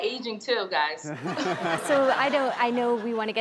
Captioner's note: laughter